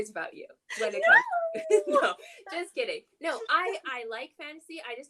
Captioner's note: whining baby voice